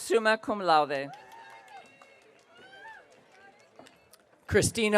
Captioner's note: audience cheering